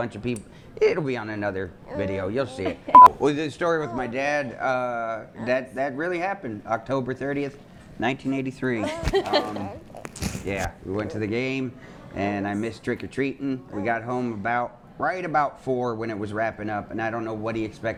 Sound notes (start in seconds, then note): 8.8 people laughing